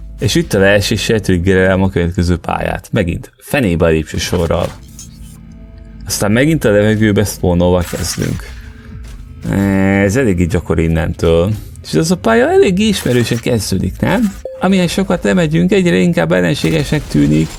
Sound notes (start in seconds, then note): none